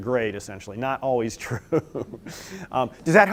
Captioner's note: laughter